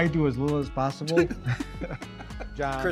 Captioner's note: laughing